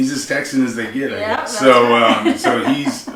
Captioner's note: laughing